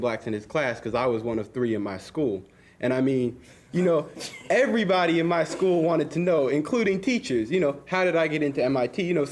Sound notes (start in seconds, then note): 4.1 students chuckling